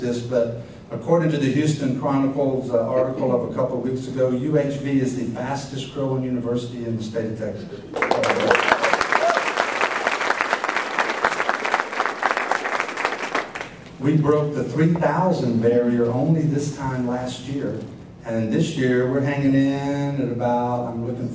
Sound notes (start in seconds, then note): 7.9 applause